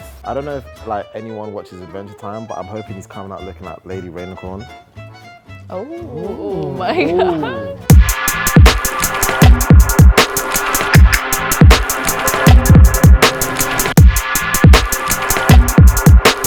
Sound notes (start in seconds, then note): 5.8 group oohs and ahhs; 7.8 hip hop music